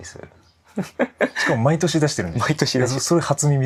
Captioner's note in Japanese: 笑い